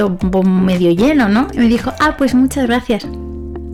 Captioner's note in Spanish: con sonrisa cínica